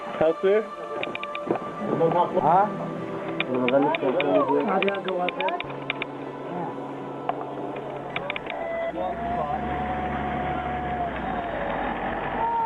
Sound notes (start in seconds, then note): 3.6 interpreter speaking in foreign language; 9.6 engine rumbling